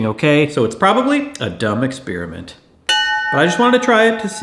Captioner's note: bell ringing